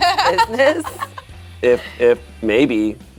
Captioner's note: laughs